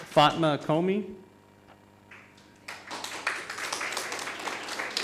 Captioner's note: audience applauding